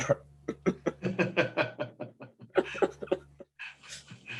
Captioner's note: laughter